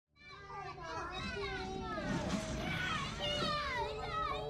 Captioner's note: sounds of children playing